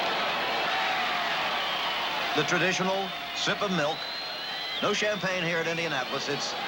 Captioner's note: crowd cheering